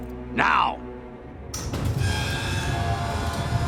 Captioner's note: creaking